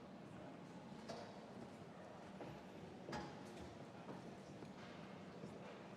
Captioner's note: none